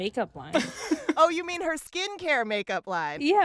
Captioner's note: laughter